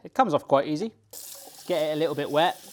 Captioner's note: water running